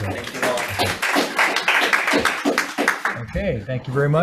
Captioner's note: people clapping